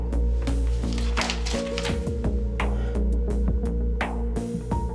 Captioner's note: paper noise